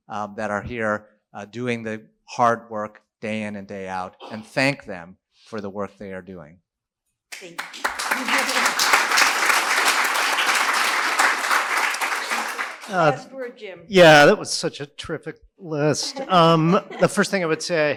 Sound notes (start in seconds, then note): 12.1 applause